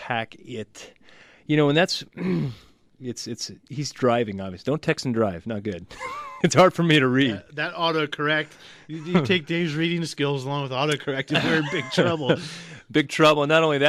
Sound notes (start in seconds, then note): 5.9 laughs; 11.2 both laugh